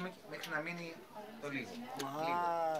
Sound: speaking Greek

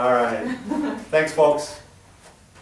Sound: giggles; laugh

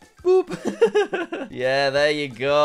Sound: laughs

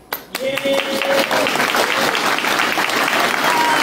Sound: applause

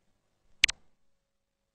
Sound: 128-bit click

